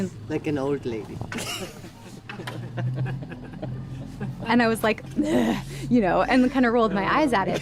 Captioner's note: laughs